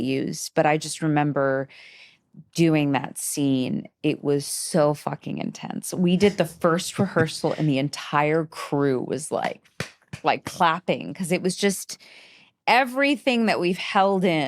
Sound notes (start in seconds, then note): 9.1 clapping